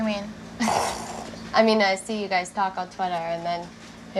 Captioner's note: laughs